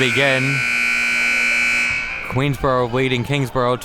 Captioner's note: buzzer blaring